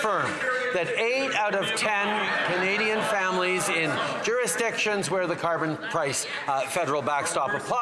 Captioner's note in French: voix de l'interprète